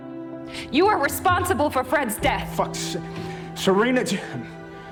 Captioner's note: shouting